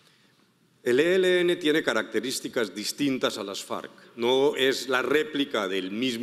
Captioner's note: speaking in foreign language